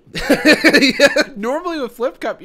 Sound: laughs

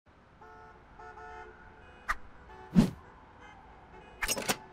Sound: distant city sounds

